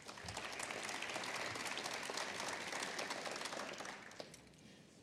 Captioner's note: applause